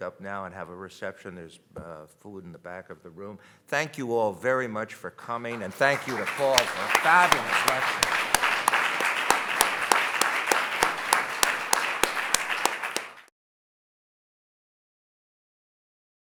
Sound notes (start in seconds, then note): 5.4 audience applauding